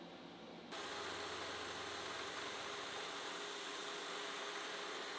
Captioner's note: machine drilling